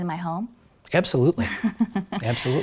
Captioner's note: laughs